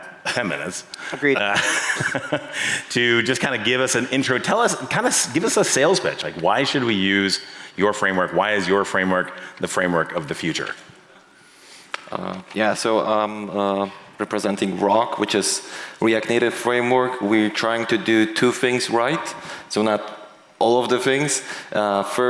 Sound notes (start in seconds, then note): 1.2 laughs